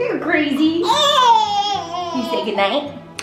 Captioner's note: exclaims